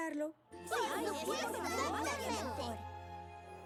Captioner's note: affirmative chatter